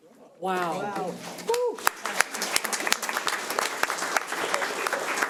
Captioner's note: overlapping chattering; audience applauds